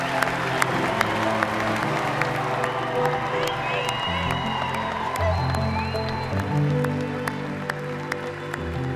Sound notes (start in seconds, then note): 0.0 audience applauding; 0.0 audience cheering; 0.7 audience whistling; 1.7 gentle inspirational music; 6.7 audience continues applauding